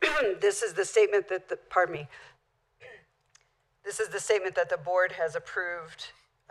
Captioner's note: clear throat